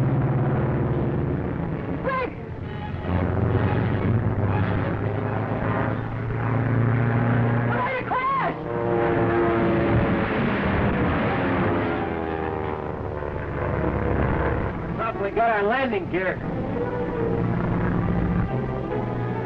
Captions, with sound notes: Quick! We're going to crash! (engines droning) (explosion booming) - Probably got our landing gear!